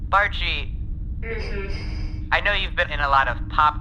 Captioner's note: sighing